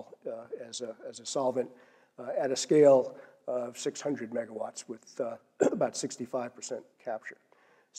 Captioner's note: cough